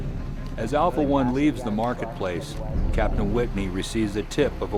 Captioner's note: voiceover